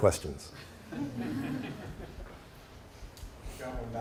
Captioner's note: laughter